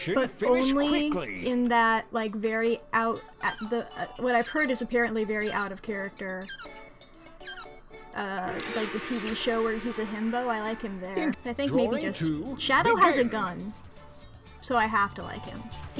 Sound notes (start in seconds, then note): 3.4 stutters